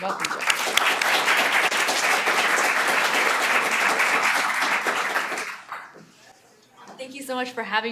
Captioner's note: applause